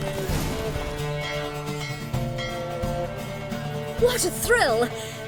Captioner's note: bell rings